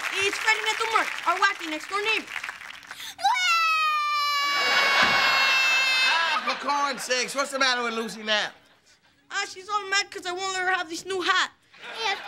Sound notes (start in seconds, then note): 3.2 crying